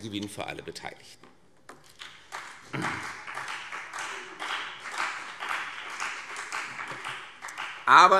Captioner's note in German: Beifall CDU und BÜNDNIS 90/DIE GRÜNEN